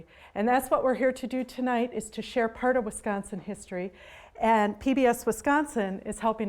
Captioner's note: none